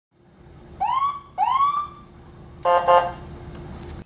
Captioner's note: ambulance siren in back rough and two airhorn beeps